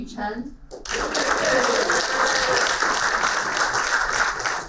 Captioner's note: applauding